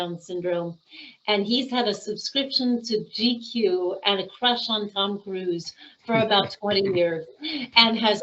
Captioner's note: laughing